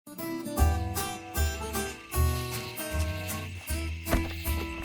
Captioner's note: gentle country guitar music; small animals croaking; wood stumps hitting